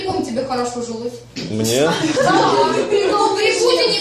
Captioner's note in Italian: risate